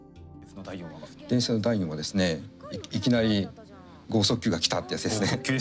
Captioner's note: speaks in foreign language